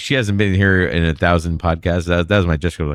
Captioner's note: uh